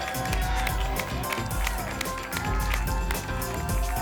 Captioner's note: applause and cheering cont